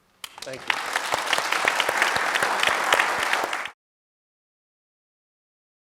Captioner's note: audience applauding